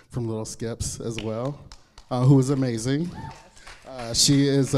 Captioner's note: clapping